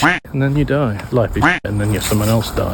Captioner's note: quack